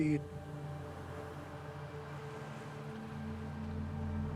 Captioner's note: water sounds and music